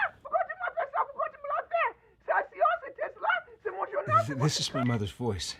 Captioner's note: Cassie screaming in French